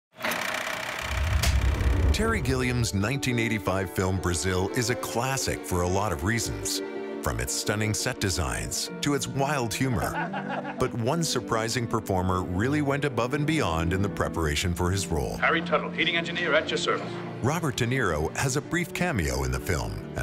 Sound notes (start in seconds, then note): 0.2 film camera rolling; 10.0 people laughing